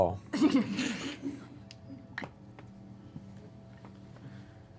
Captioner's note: laughter